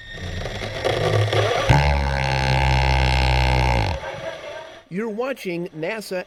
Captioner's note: drilling